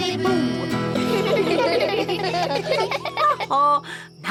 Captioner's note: all giggle